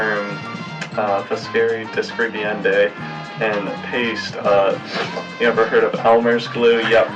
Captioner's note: speaking foreign language